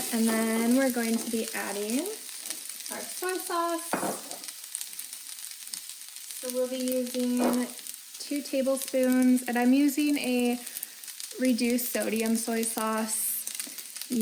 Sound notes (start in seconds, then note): 4.3 jar clanging; 4.9 sizzling